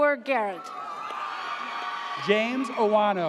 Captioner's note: audience cheers